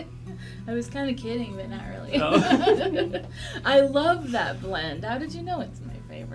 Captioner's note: laughs